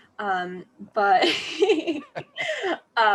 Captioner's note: laughter